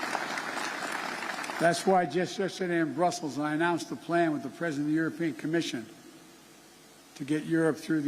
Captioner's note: applause